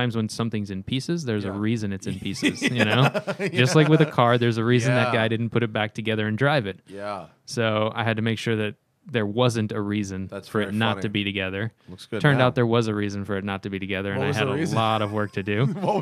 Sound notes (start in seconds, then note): 2.1 laughter